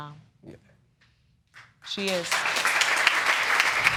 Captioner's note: applause